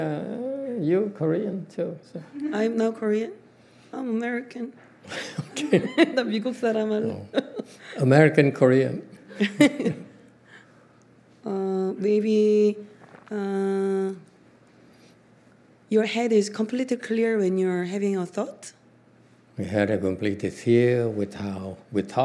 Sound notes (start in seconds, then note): 5.1 laughs; 9.3 laughs